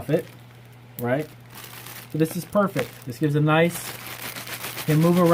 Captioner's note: crinkling paper